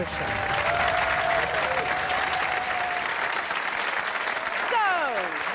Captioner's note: clapping and cheering